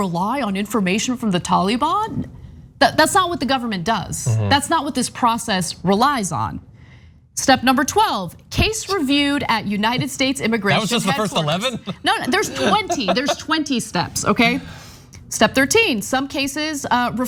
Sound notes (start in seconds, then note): 10.7 laugh